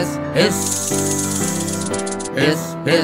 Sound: snake hissing

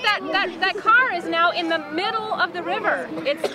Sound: kids talking

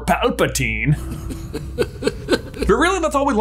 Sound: Emperor Palpatine laughs

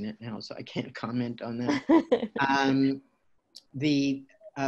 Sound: laughter

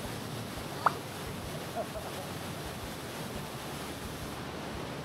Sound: laughs

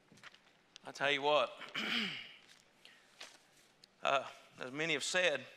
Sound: clears throat

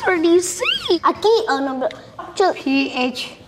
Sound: speaking foreign language

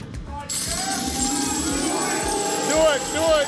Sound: whoosh; coins jingling

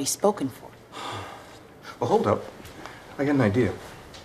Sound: sigh

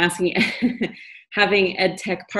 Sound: laughs

